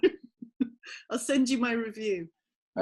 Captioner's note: laughing